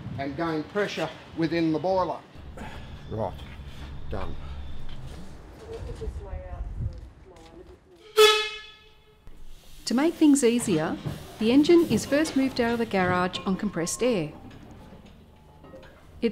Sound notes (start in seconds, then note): 5.4 chatter; 8.0 horn